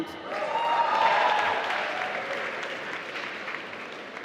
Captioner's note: applause